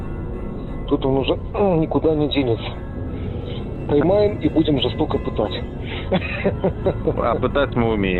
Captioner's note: laughs